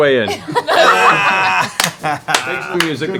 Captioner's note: laughter